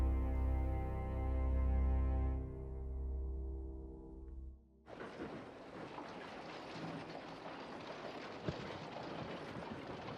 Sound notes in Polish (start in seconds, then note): 4.9 odgłosy życia miasta